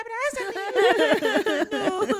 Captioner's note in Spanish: ambos lloran